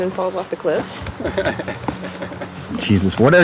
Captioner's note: CJ laughing